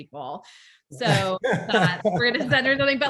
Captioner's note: group laughs